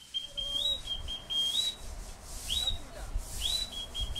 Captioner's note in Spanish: Silbidos rítmicos